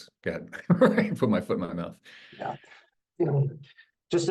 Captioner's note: laughs